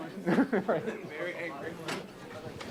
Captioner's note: laugh